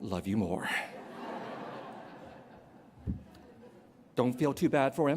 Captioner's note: laughter